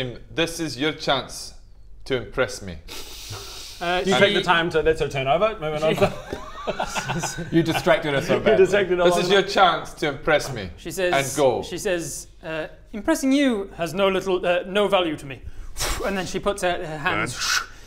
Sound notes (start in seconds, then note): 15.7 pwoof